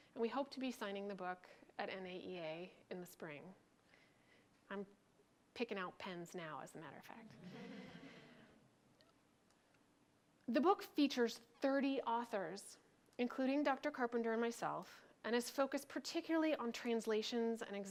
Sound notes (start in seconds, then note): 7.3 crowd laughs